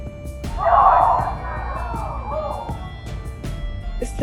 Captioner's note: crowd gasping